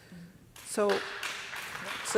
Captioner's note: audience applauds